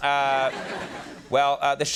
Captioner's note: audience laughs